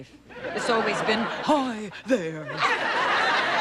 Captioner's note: gasping